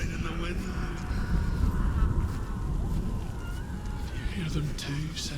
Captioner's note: faint sounds of screaming, wailing